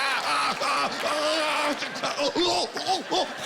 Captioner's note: stammering